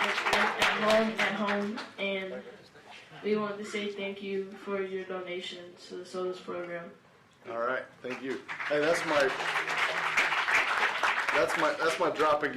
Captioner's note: laughter